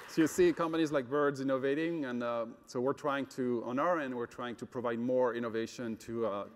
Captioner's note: applause